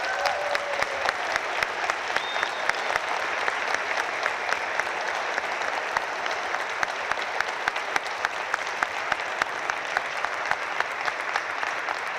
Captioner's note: applause